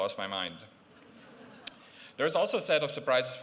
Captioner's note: laughter